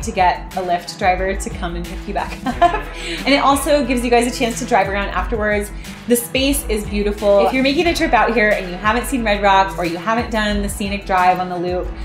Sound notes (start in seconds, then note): 2.3 laughing